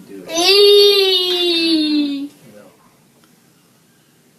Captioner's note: loud moaning